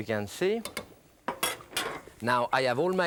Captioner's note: skillet clatters; utensil clinks